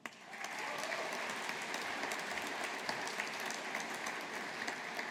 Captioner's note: audience applauding